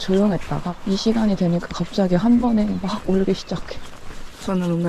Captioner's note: birds